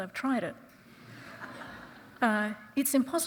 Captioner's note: audience chuckling